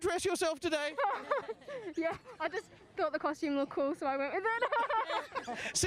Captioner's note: laughs